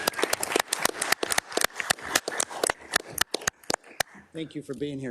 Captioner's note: audience clapping